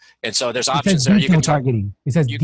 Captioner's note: overlapping chatter